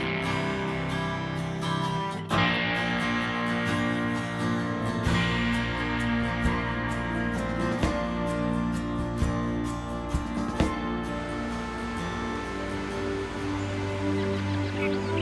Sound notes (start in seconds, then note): 10.3 gentle music; 11.0 birds chirping